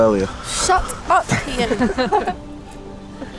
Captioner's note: laughter